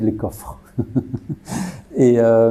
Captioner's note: laughs